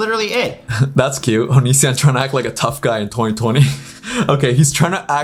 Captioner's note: laughs